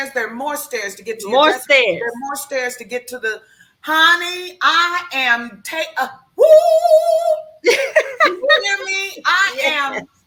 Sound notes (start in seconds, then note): 5.2 howls; 7.6 laughs